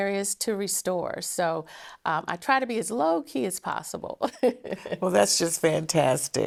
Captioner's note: laughing